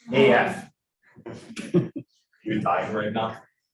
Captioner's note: students laughing